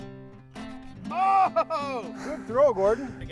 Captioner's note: screams